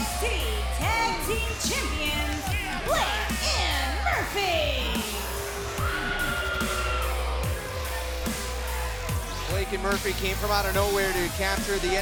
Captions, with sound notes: THEY'RE THE NXT TAG TEAM CHAMPIONS, BLAKE AND MURPHY. >> [CROWD CHEERING] >> BLACK AND MURPHY CAME FROM OUT OF NOWHERE TO CAPTURE THE